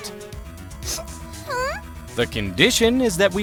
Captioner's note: sniffle